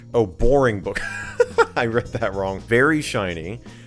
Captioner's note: laughs